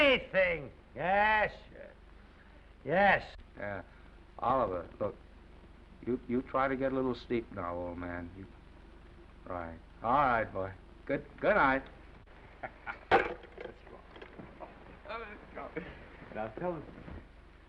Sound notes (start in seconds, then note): 12.6 Norman laughs; 15.2 laughs